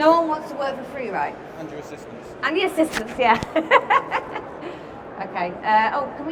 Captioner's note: laughs